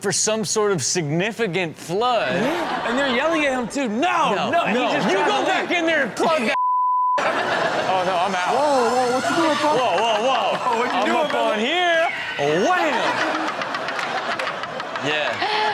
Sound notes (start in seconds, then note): 2.2 audience laughs; 6.5 beep; 7.5 audience laughs; 12.0 Chanel and audience laugh